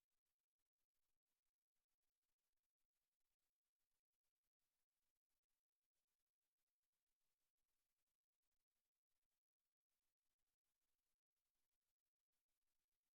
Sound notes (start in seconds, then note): none